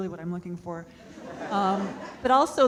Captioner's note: audience laughing